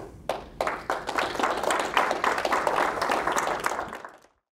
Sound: applause

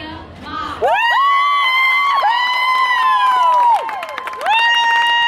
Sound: crowd cheering

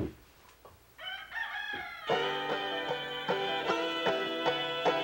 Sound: rooster crowing

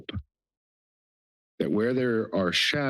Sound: pause

